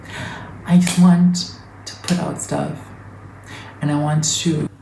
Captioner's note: deep inhale